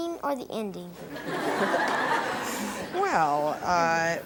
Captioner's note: audience laughs